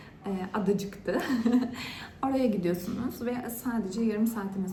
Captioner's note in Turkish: kahkaha